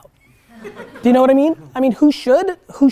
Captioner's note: students laugh